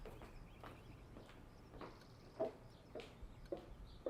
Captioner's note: footsteps clicking